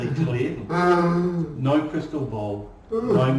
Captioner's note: laughing